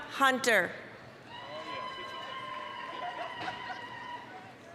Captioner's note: applause, cheering